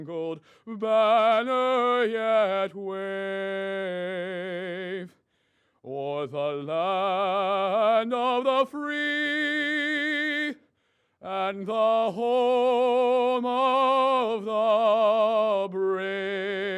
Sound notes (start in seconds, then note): none